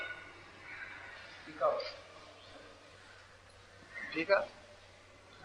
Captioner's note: bird calling